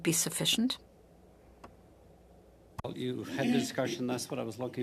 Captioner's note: speaking French